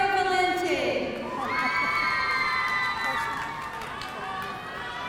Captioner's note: audience cheering